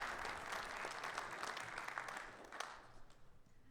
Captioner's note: audience clapping